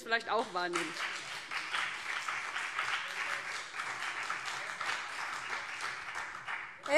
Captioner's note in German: Beifall BÜNDNIS 90/DIE GRÜNEN und CDU